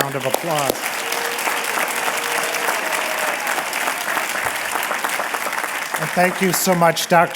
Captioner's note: applause